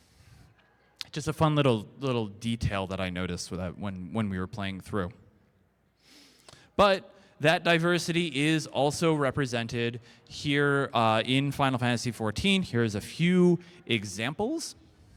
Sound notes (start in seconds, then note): none